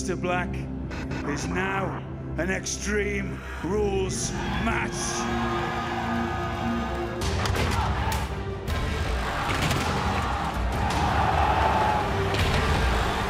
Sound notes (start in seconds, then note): 8.6 crowd cheering